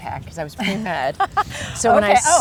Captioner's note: host laughs